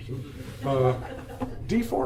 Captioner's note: attendees laugh